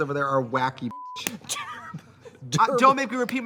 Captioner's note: beep; Katya laughing